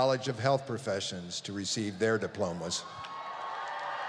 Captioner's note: applause